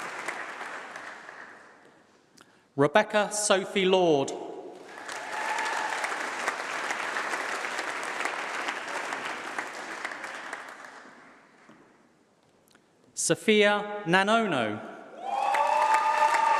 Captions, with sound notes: Rebecca Sophie Lord. [Applause]. Sophie Nanono.